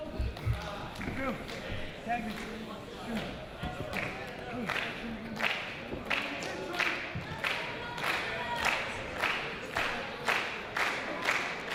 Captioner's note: applause